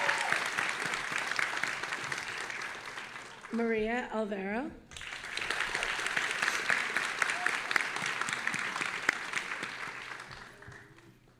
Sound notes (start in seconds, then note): 4.9 audience applauding